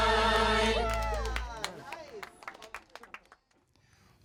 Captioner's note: crowd clapping